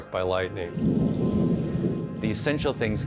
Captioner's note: thunder rumbles